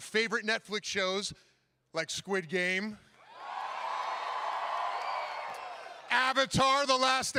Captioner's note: cheering